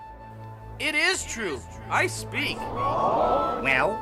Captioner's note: crowd gasping